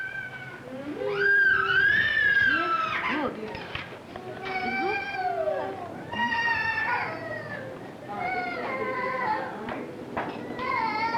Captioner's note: child screaming